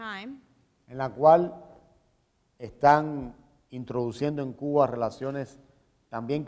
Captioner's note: speaking in Spanish